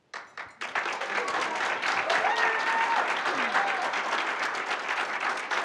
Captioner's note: audience cheering and applauding